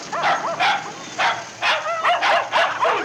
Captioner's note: barking